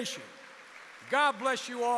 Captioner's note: applause